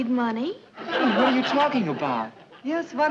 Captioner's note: audience laughing